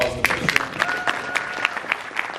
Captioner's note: audience applauds